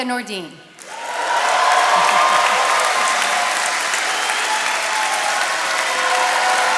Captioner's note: attendees cheering and applauding